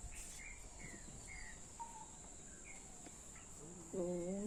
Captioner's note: birds chirping; speaking in foreign language